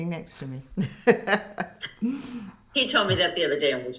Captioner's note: laughing